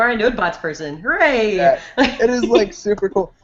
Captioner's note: laughs